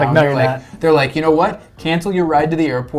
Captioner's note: laughs